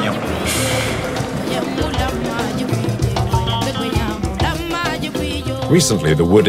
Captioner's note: foreign language